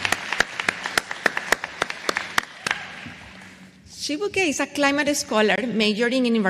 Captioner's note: applause